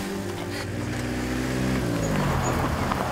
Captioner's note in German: Motorgeräusch